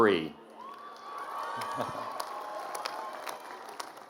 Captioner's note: cheering